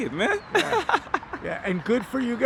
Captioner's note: giggles